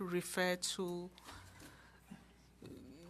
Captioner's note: speaking French